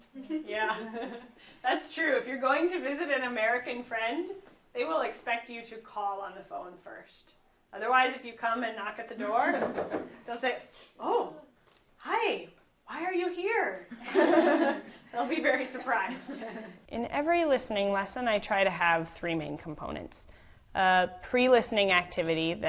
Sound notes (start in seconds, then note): 16.0 laughing